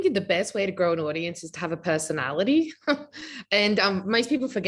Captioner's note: laughing